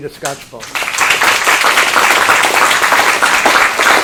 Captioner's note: applause